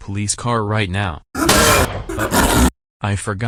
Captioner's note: snow leopard growling, handcuffs rip